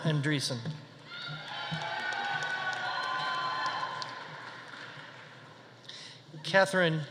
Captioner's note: audience cheering; audience applauding